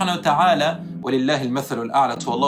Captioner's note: Arabic